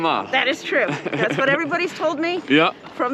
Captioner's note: laughs